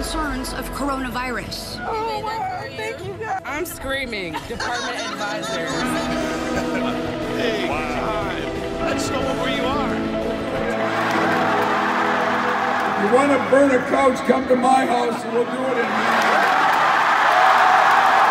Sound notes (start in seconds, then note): 10.5 cheering; 15.9 applause